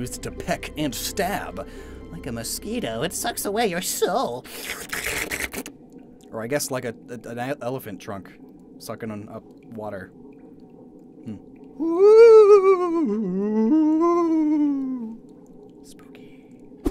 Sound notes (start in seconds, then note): 4.4 slurp noises; 14.1 whispers